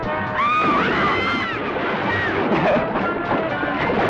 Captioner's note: exciting accordion music; dancers yelling; water splashing; Pepe laughing